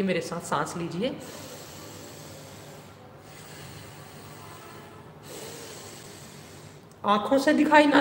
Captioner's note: breathing deeply…